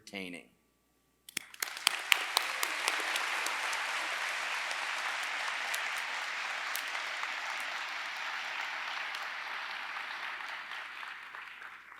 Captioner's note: applause